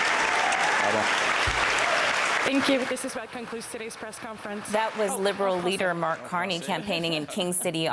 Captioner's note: cheers and Applause